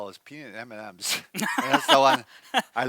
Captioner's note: laughs